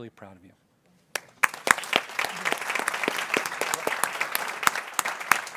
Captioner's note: people clapping